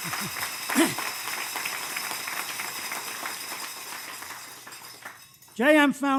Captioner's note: applause